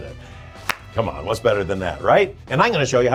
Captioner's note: claps